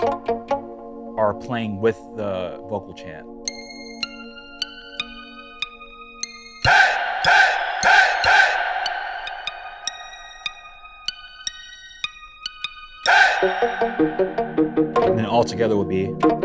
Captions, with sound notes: (electronic percussive notes playing) Are playing with the vocal chant. (light electronic notes playing) (people chanting) (light electronic notes playing) (people chanting) (electronic percussive notes playing) And then, altogether will be...